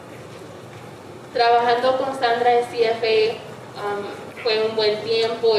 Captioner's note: speaking in foreign language